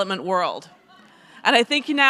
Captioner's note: audience laughs